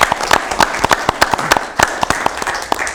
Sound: applause

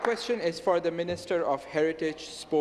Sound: some Applause

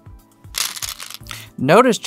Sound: stones rattling

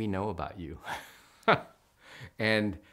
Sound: laughs

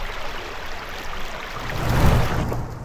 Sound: swoosh

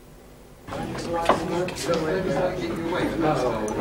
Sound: chatter

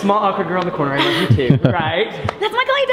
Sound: laughs

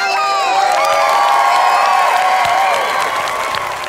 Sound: crowd cheering

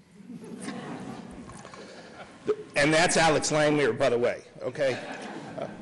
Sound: laughter

